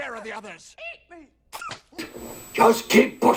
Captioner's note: spits